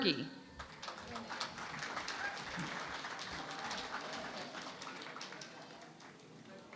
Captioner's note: applause